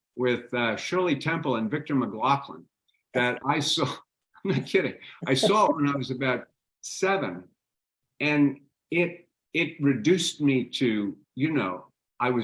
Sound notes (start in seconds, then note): 4.4 laughing